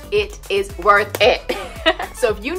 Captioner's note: laughing